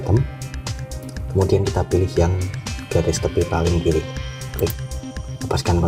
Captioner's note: click